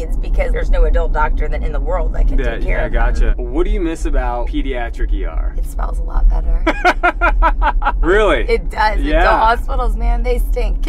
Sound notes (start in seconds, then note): 6.6 laughing